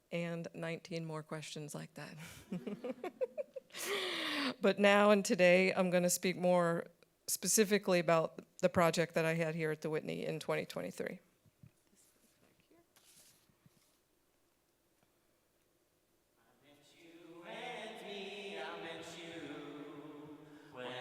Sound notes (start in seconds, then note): 2.4 every laughing